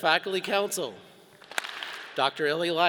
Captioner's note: all clap